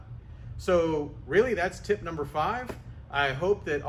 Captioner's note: clapping